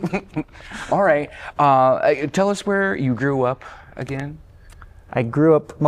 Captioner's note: laughter